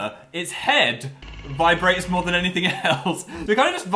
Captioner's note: laughs